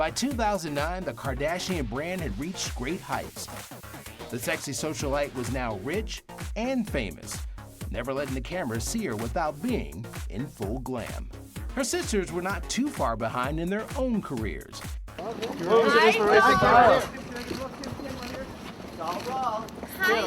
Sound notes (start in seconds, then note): 15.2 mixed chatter; 19.1 foreign language